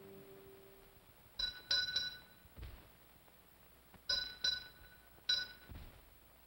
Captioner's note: bell rings slowly